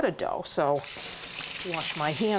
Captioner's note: water running